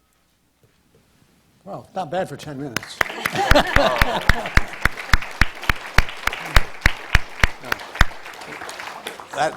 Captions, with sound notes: - Well, not bad for 10 minutes (laughs). (audience applauds)